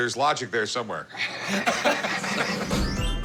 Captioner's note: laughter